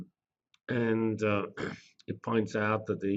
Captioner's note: cough